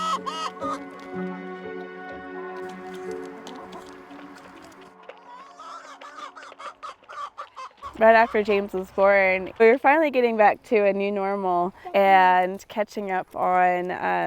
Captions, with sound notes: (chickens clucking) Right after James was born We were finally getting back to a new normal and catching up on all the things